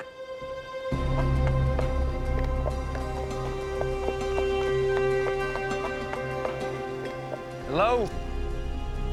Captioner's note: trotting